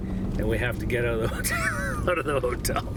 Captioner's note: chuckling